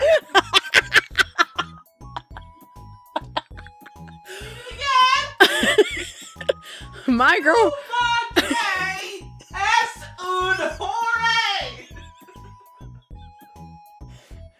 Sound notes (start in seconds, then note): 5.3 more laughing; 8.3 even more laughing